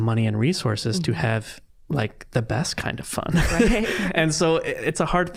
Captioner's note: all laughing